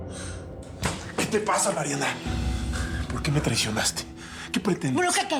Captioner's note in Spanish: sonido al abrir la puerta